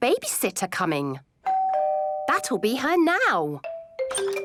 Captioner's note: doorbell rings